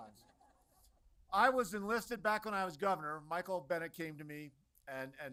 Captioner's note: laughter